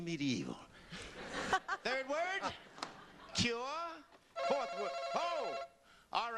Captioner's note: laughter; ringing